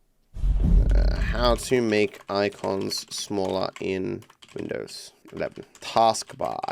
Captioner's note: typing